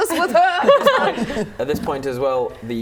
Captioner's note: laughing